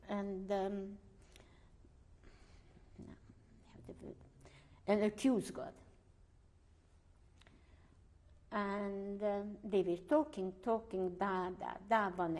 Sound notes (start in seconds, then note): 0.7 pauses for 3 seconds; 5.7 pauses for 3 seconds